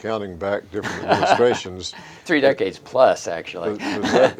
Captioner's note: chuckles